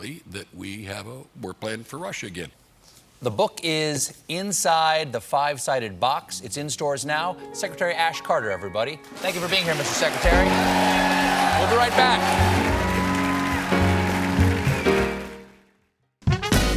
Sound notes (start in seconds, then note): 12.3 band playing; 12.3 cheers and applause